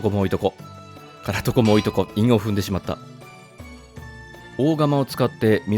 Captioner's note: anvil